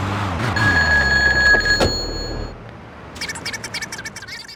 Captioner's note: telephone ringing